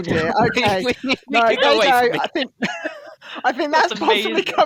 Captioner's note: laughter